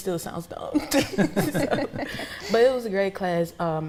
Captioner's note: laughs